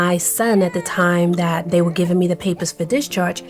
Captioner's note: baby crying